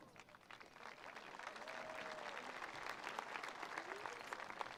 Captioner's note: attendees applauding